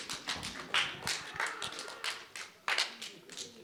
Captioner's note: scattered clapping